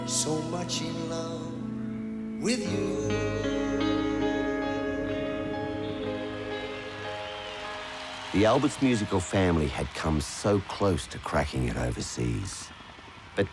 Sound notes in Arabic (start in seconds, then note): 5.0 هتاف الجمهور